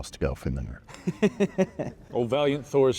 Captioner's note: laughing